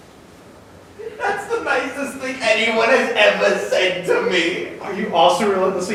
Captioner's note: sobs